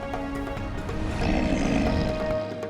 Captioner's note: Appa grunting